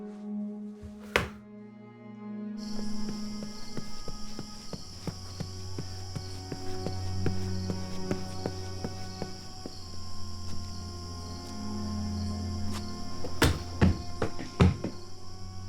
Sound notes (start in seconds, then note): 0.1 tense music; 3.7 footsteps thudding; 11.5 tense music